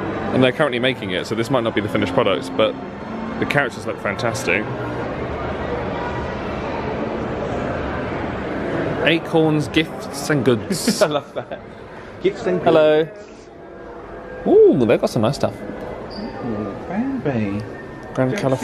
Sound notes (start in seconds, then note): 5.7 people chattering; 10.7 laughs